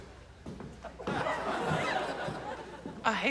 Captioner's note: laughter